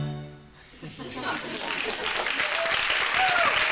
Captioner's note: dramatic classical music; audience laughing and clapping; audience cheering